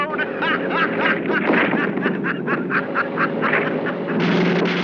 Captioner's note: laughing